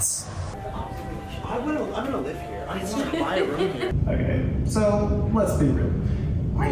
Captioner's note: laughing